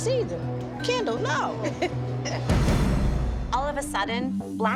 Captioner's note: laughs